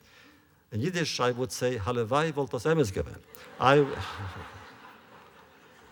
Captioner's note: laughter